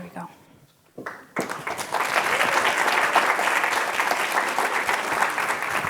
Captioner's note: applause